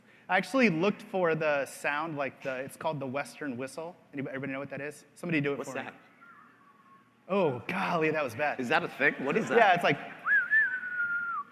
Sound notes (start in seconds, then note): 10.2 whistling